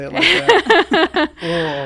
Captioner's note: laughing